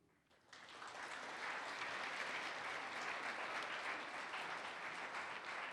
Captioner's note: participants applaud